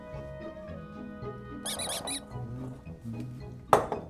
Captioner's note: squeaky-toy sound